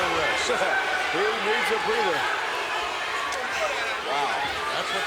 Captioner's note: laughs